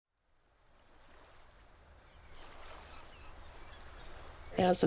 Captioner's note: birds chirping; waves crashing